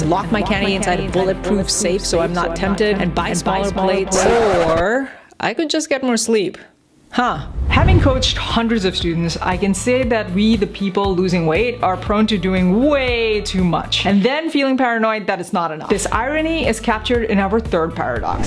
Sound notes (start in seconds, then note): 4.2 record scratches; 7.7 upbeat music